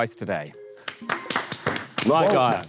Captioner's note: panel applauds